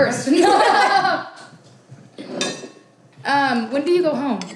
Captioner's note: group laughs